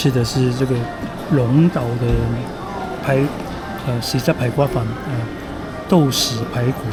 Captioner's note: Cantonese